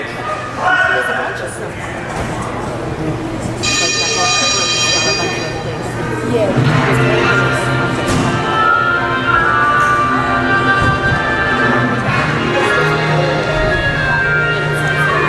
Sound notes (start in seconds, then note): 3.6 ringing sounds; 6.4 background music begins